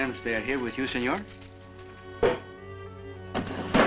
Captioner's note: tapping